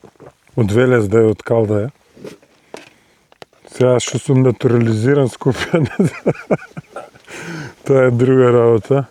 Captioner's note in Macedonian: смеа